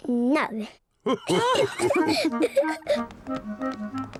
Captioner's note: all laugh